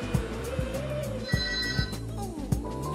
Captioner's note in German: Türklingel